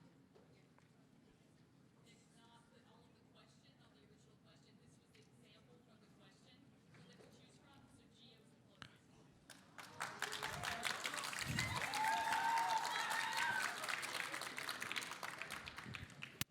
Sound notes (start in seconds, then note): 9.6 audience applauding